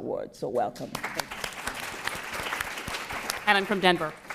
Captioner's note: applause